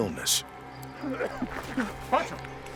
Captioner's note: bartram coughs